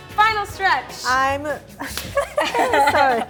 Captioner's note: lauhgs